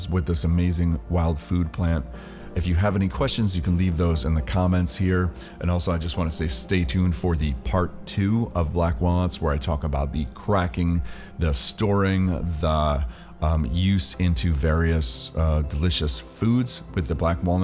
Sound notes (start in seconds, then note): none